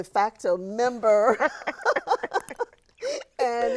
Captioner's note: both chuckling